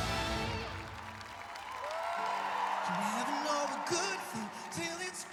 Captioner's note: applause